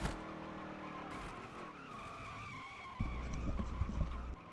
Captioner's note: car screeching